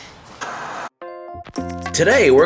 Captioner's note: TV static